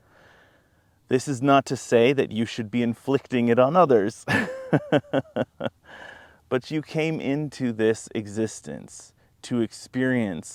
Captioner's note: laughs